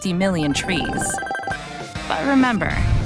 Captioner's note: computer game chiming